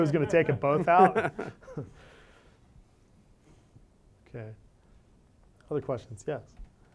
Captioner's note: laugh